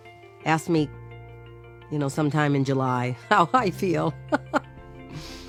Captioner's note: laughs nervously